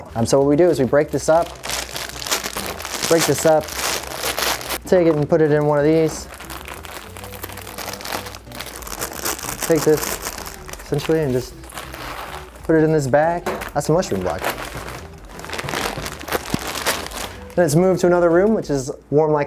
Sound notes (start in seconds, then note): 5.6 packaging crackling